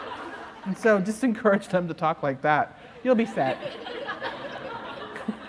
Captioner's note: laughter